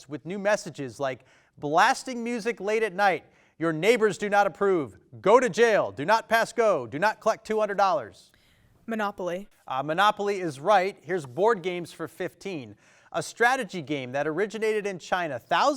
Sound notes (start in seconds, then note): none